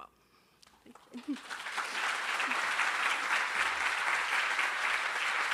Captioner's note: crowd applauding